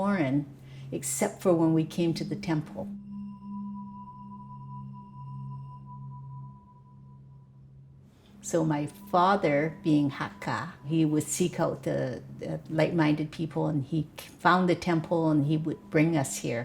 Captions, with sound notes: The Chinese culture actually to me was quite foreign, except for when we came to the temple. [a high-pitched ring repeats three times] So my father, being Hakka, he would seek out the like-minded people